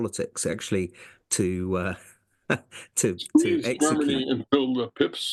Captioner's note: laugh